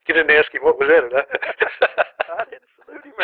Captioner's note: laughter